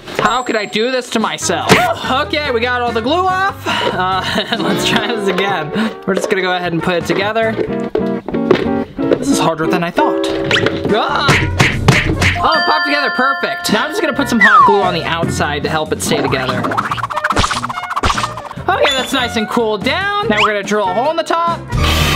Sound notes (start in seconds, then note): 4.0 chuckles; 11.8 slapping; 16.1 whipping